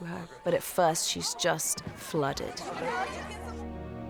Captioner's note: workers clamoring